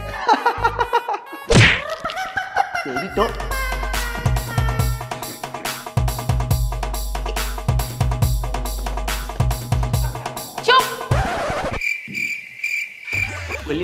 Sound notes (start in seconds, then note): 0.1 laughing; 3.3 quarreling; 8.2 quarreling